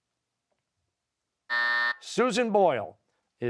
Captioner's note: buzzer